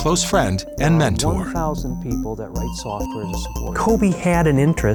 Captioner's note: lighthearted music; chattering faintly